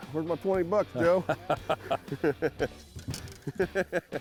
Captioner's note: laughter